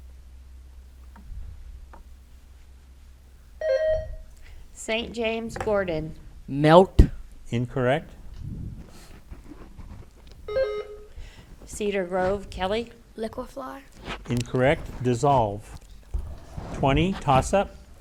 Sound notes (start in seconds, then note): 3.6 bell dings; 10.5 bell dings